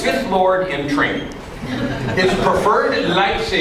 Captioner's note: laughing